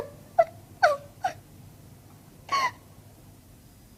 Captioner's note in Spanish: Llora